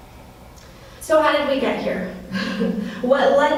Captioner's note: laughs